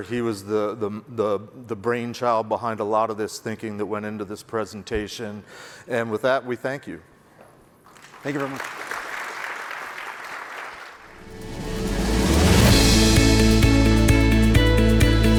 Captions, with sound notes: He was the brainchild behind a lot of this thinking that went into this presentation. And with that, we thank you. - Thank you very much. (audience clapping) (upbeat music)